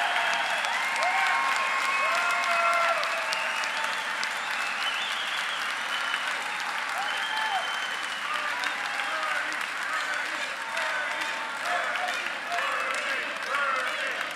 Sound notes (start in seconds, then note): 0.1 applause; 2.9 crowd chanting “Bernie”